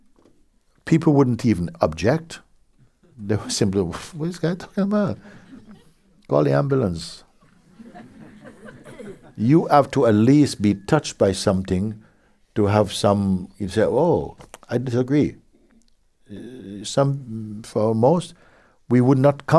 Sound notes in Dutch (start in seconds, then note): 7.4 gelach